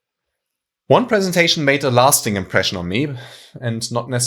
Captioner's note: exhaling